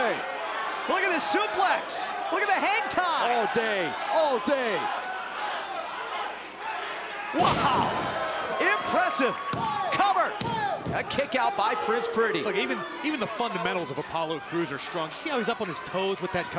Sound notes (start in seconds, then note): 11.3 crowd cheering; 12.3 crowd chatter